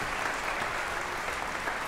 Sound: audience applauding

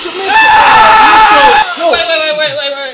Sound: vacuum succ

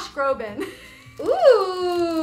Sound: laughs

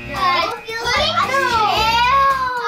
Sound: buzzer

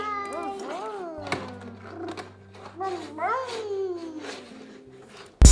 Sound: children roaring

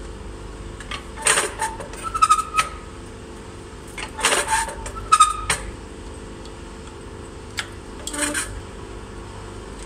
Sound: machine noises

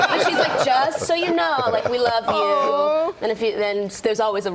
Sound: laughter

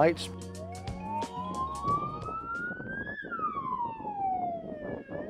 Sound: siren blaring

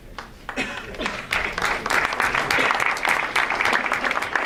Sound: audience applauds

